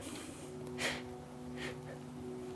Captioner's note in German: Schweres Atmen